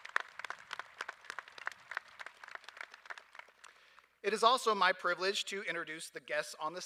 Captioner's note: applause